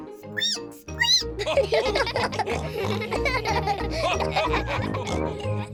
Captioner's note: squeaks; all giggle